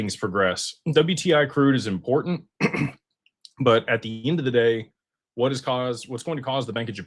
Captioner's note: clears throat and cough